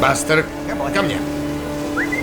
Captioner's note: whistles